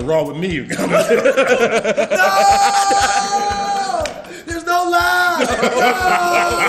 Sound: laugh

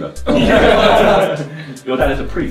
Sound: laughing

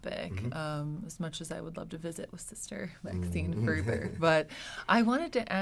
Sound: murmurs

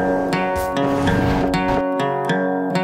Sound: glitch sounds

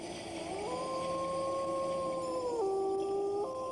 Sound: wolf howling

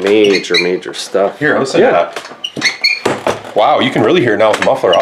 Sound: squeaking

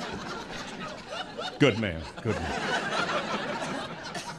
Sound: laughter

